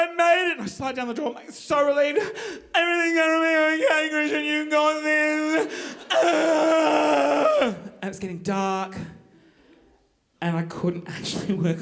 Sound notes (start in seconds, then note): 6.0 groaning